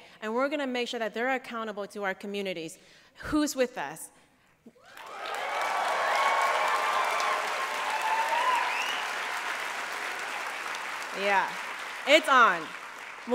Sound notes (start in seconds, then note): 4.8 applause